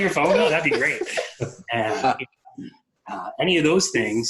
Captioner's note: laughs